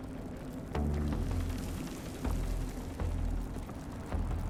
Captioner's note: wind blowing